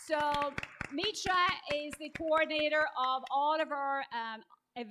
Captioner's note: applause